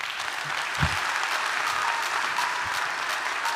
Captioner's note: audience applauding; upbeat electronic music